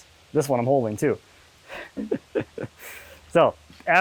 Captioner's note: laughing